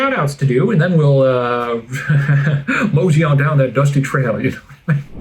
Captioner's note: cowboy laugh